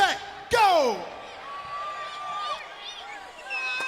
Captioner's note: crowd chatter